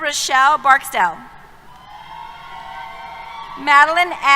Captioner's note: cheers